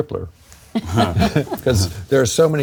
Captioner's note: chefs chuckling